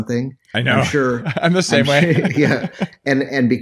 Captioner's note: laughs